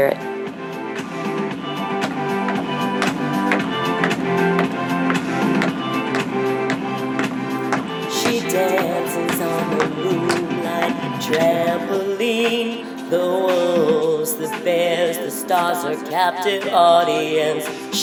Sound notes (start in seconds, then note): 3.0 tapping continues; 5.3 uplifting music